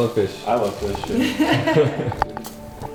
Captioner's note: chuckles